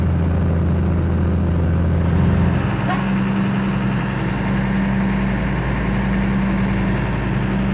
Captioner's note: engine rumble